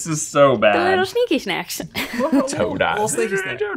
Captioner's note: chuckling